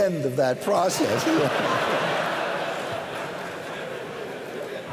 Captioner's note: laughter